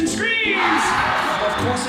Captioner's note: audience cheering